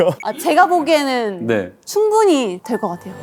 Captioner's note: gulps